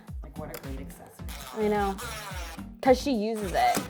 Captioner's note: drill buzzing